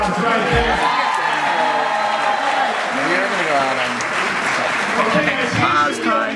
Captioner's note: crowd cheers and claps